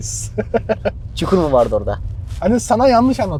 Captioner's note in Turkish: kahkaha